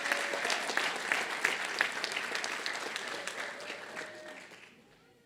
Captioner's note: applause